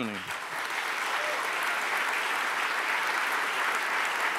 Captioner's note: audience applauds